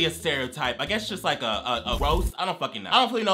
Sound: flames crackle

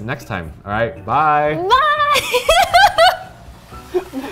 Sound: laughs

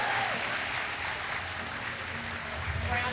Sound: inmates applaud

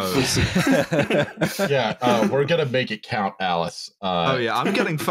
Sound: laughter

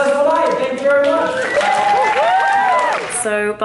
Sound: audience applauding

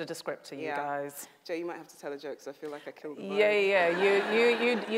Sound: audience laughs

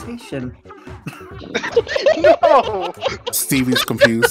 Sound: laughing

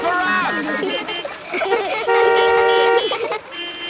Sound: laughter; beeping

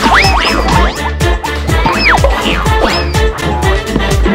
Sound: comical sounds; upbeat music

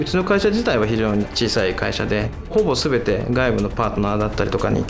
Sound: speaks Japanese

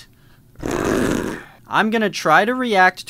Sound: roaring

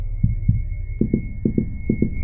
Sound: heartbeat intensifies

